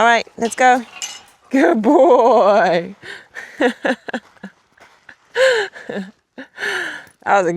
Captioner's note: laughs